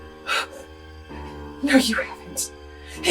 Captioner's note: Kathryn gasps